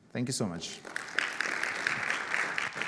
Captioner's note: audience applauding